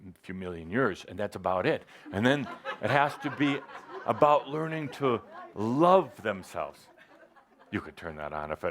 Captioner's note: laughter